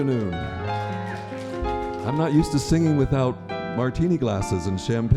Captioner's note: applause